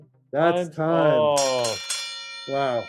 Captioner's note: bell ringing